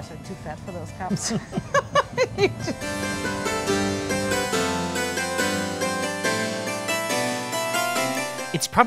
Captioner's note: laughing